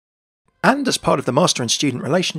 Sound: voiceover

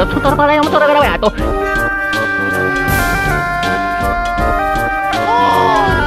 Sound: italian gibberish; autotuned cry

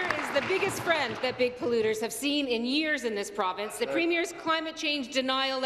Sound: applause

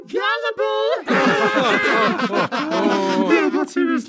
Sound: laugh; laughs

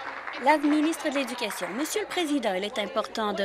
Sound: applause

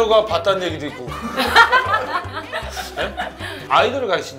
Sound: hahahaha

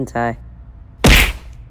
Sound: smack!

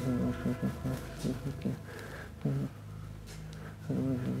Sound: Alister murmuring

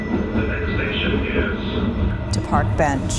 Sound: voiceover

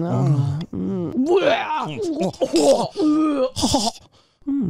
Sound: vomit ejecting; moaning

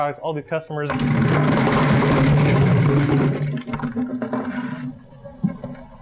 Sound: loud rumbling and thudding

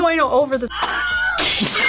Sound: Wilhelm screams; glass shatters; both laugh

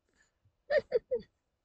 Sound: snicker

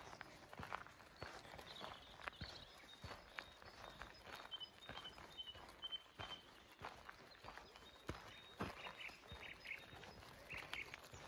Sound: sound of birdsong And light wind

